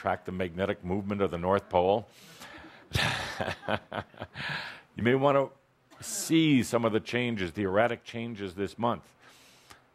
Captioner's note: chuckling